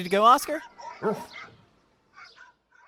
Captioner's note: barks